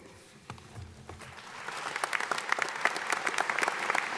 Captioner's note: audience applauding